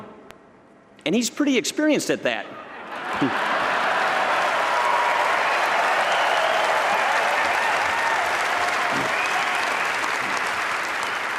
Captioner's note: laughter and applause